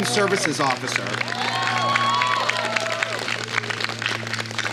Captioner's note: applause